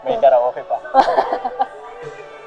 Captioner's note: laughs